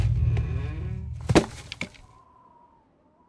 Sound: wind whistles; casket creaks; wind whistles

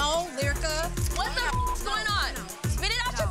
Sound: beep

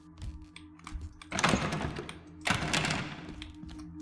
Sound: doors Rattle

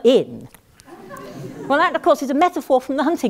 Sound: laugh

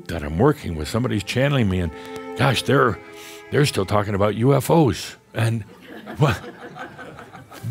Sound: some chuckles

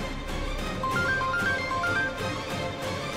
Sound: phone ringing

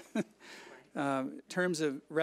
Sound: chuckles

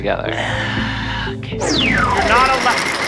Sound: through gritted teeth

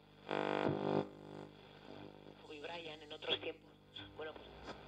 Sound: sounds of a Radio being tuned

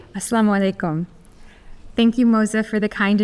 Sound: speaking Arabic

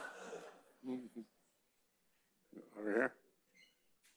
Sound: audience laughing; chuckles

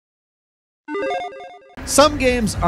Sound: video game bleeps

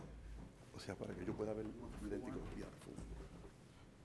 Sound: speaks Spanish

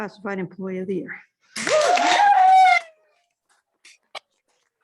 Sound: applause

